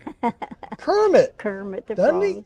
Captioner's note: laughs